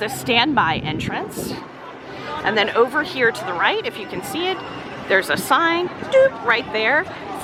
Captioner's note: boop